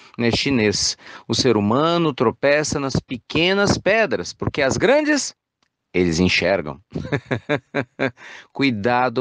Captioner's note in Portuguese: risos